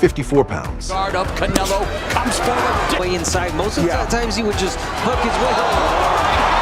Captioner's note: crowd cheering